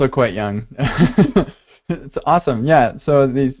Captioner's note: laughing